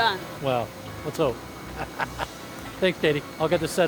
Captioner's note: chuckles